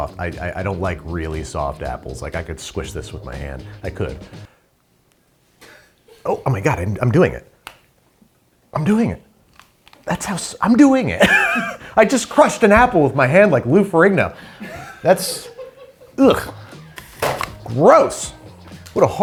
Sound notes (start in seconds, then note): 11.2 laughs